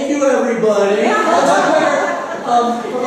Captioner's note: laughter